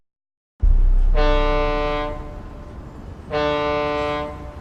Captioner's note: boat horn blaring